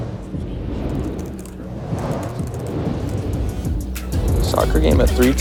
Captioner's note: keyboard typing